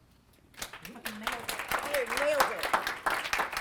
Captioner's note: applause